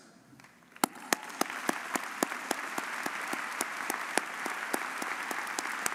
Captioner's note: audience cheering and applauding